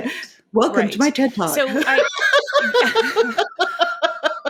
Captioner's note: laughing